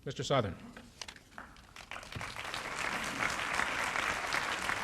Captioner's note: applause